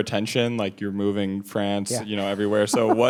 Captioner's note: laughs